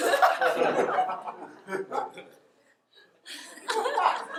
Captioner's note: audience laughter